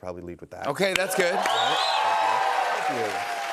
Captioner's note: cheers and applause